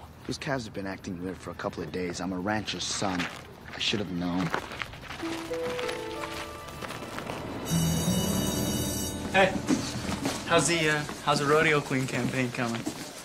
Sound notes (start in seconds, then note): 5.2 somber music; 7.9 bell rings